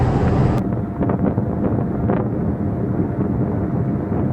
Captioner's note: electric fan, engine and light wind sounds